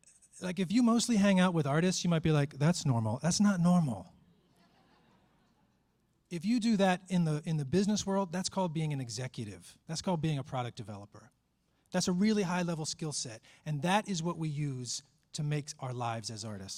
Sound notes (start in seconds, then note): 4.4 laughter